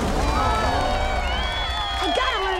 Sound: cheering

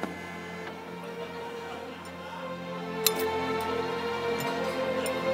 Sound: audience laughs

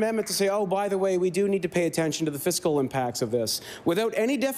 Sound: applause

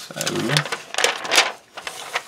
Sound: paper crinkles

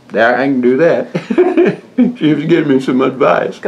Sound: laughs

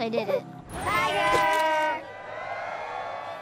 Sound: cheers and applause

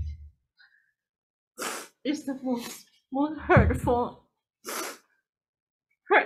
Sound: sniffs

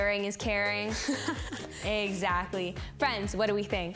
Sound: laughs

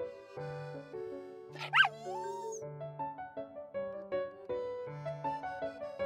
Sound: whines

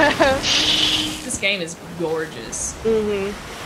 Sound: laugh

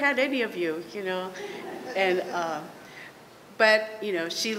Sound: laughter

